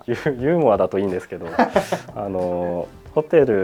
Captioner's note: laughs